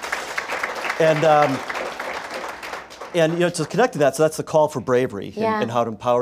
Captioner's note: applause